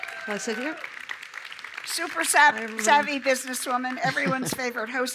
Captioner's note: applause